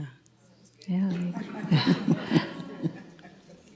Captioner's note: audience laughs